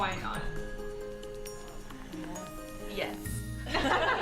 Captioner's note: laughter